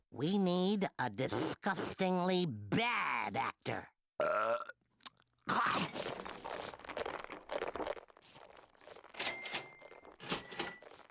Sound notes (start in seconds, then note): 4.1 Taz belching; 10.3 cash register dinging